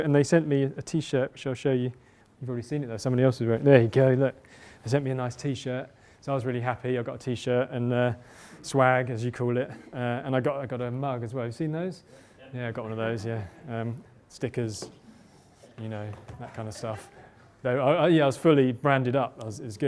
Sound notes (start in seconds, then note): 11.9 voiceover